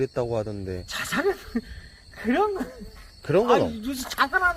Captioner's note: laughing